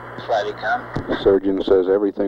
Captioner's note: mission Control Audio